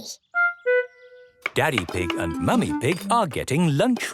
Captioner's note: none